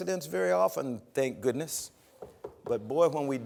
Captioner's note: knocking on podium